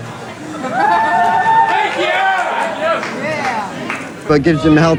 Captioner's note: cheering